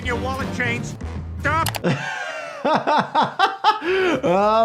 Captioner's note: laughs